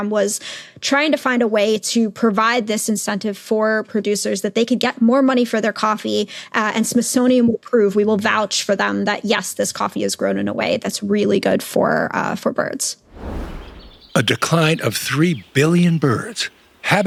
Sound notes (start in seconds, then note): 13.1 screen whooshes; 13.1 birds chirping